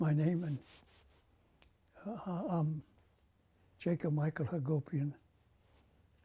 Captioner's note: pauses for 3 seconds